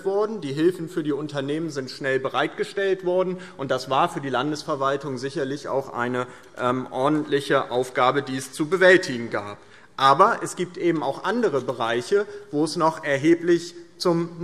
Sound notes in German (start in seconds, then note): none